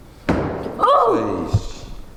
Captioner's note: banging; gasps